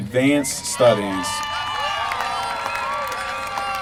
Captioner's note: applause